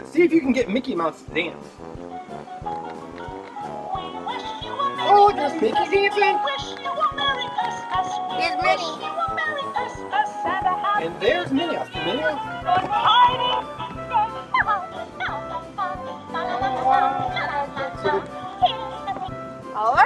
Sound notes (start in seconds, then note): 2.4 toy playing; 14.8 toys playing